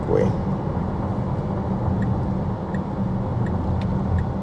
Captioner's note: car engine